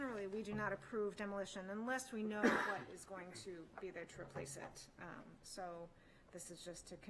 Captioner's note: clears throat